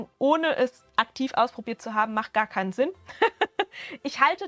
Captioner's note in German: Gelächter